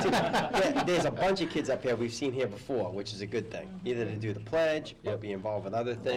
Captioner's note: laLaughter